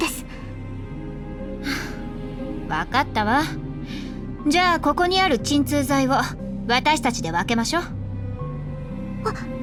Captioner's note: sigh